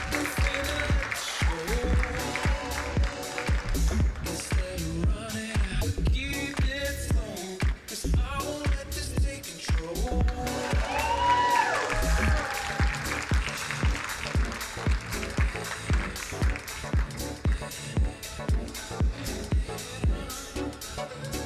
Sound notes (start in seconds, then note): 10.3 crowd cheering